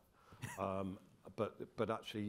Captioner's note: chuckles